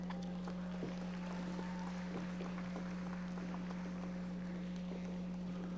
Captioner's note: audience applauding